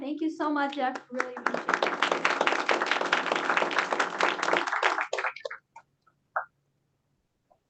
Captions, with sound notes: Thank you so much, Jeff. Really appreciate it. [APPLAUSE]